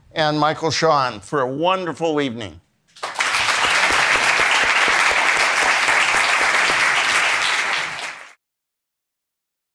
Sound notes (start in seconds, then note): 3.0 attendees applauding